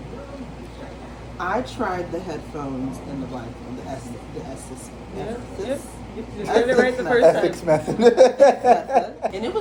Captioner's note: laughs